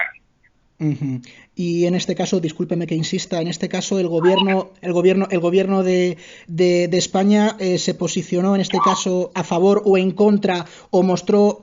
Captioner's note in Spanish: risas